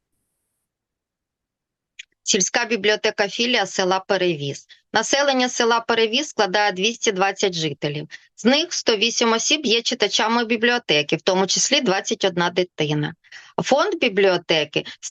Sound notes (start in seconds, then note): 2.7 foreign Language